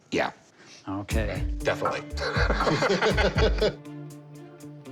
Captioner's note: laughs